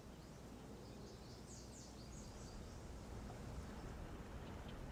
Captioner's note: birds chirping